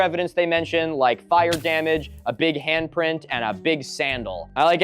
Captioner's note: Minecraft sfx